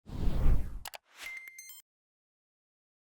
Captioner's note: air whooshing